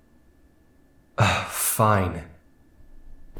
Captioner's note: sigh